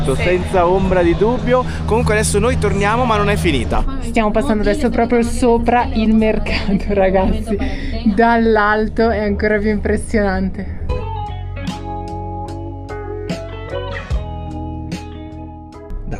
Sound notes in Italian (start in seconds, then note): 8.9 risate